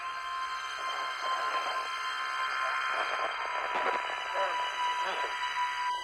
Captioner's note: radio signals